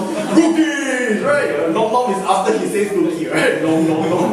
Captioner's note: imitates cookie monster